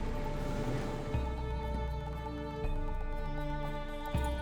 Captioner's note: brakes squeal; engine shuts off